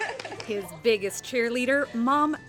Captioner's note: applause